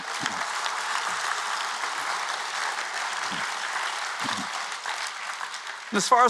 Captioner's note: applause